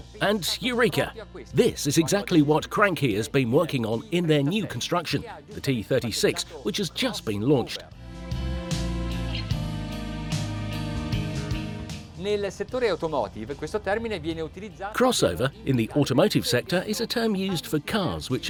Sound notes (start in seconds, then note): 9.4 soothing music; 13.2 speaking foreign language